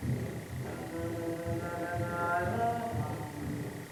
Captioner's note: chanting